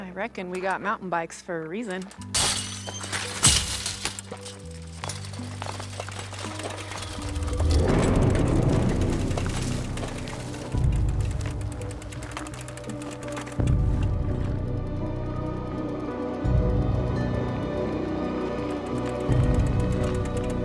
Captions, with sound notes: - I reckon we got mountain bikes for a reason. (fence clatters) (intense music) (intense music continues)